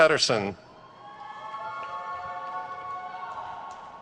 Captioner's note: crowd cheers